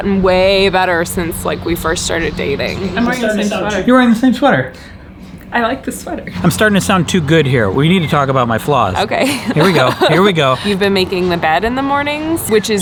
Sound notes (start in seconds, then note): 9.0 laughs